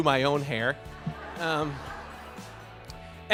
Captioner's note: laughter